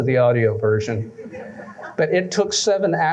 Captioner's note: laughter